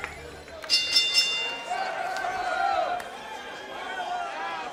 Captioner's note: bell rings